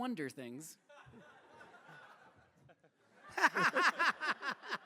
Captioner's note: laughter